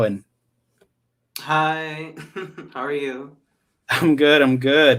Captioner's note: laughs